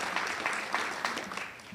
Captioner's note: audience cheers and applauds